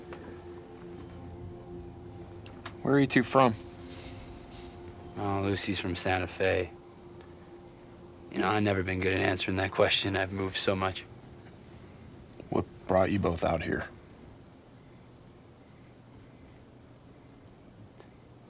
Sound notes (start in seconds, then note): 14.5 crickets chirping